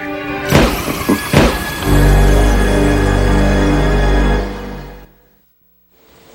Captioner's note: gun banging; chuckling